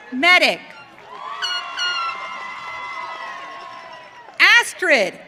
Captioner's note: audience cheering